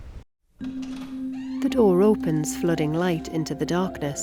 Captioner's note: door creaks